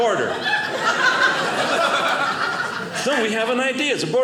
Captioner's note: audience laughing